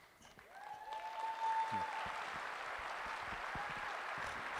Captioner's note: applause